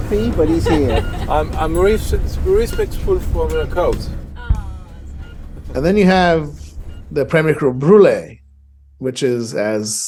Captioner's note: laughter